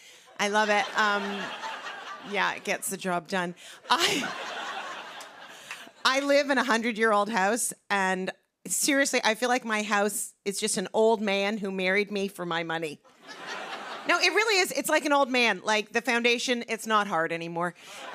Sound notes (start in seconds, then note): 0.5 laughter; 3.8 laughter; 13.2 laughter; 17.9 laughter